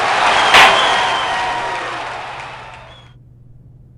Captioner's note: gavel slam!